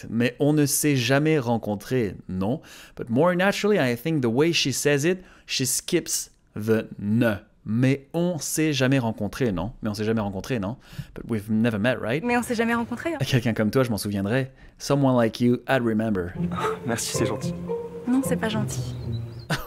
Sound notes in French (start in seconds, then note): 13.1 lit la phrase en français; 14.7 lit la traduction en anglais